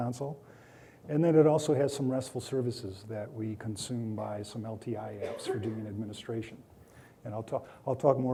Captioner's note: coughing